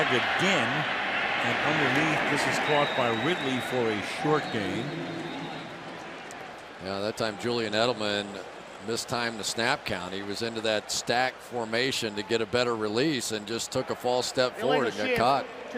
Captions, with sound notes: Flag again. And underneath. This is caught by Ridley for a short gain. [pa announcement] You know, that time, Julian Edelman mistimed the snap count. He was into that stack formation to get a better release and just took a false step forward and got caught.